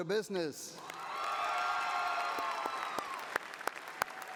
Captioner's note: cheering